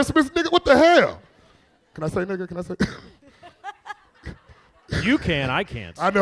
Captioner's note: chuckles